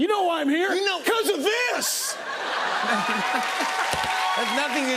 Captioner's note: laughter